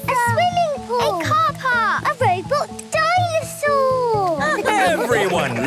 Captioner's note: laughter